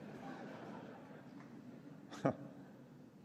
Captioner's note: laughter